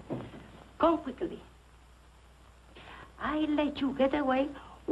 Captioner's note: spanish accent